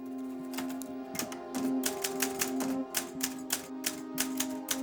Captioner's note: tense emotional music; keys clacking